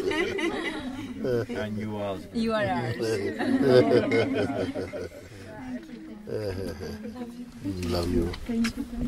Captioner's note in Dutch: gelach